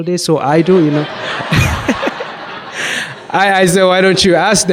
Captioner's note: audience laughs